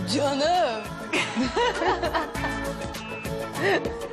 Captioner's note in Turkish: Gülme